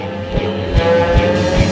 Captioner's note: aaaaAAAAA